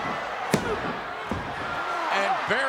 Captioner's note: hand banging